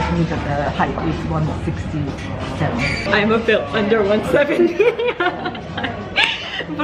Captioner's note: laugh